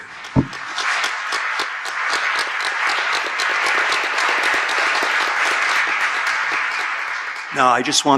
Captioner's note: audience clapping